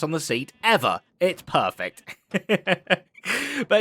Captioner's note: laughs